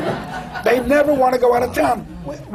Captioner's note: laughter